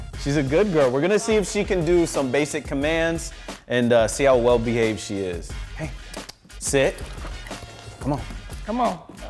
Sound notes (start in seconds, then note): 6.1 clicks tongue